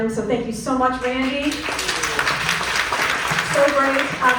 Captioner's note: clapping